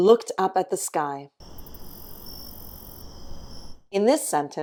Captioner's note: crickets chirping